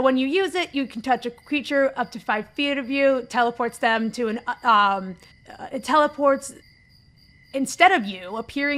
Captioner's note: stammers